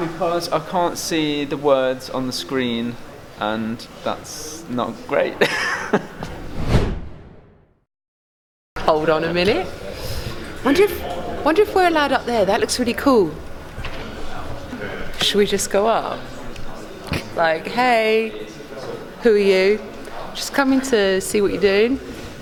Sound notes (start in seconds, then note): 5.4 laughing; 6.3 air whooshing